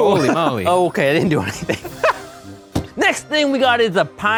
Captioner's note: laughs